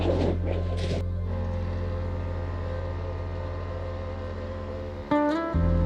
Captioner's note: buggy engine putting